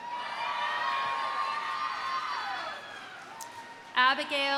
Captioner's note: audience cheering